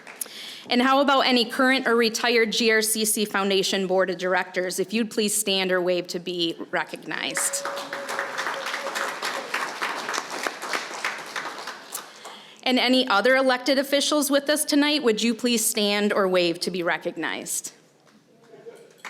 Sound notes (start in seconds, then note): 7.3 applause